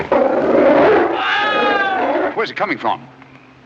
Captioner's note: scream